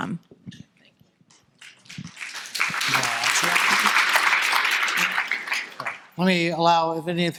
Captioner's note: audience applauding